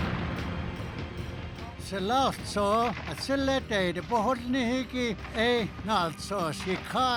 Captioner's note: guns firing in background